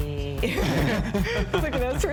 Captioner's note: both laugh